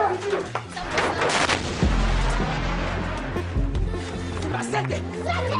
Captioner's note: explosion blaring